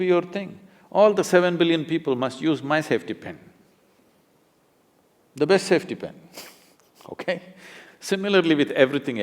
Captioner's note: laughs